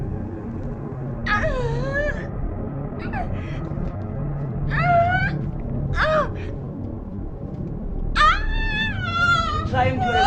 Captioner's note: muffled Screams